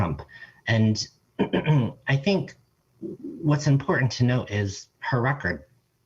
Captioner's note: clears throat